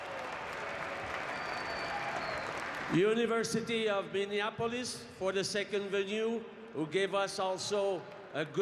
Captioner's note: cheering and Applause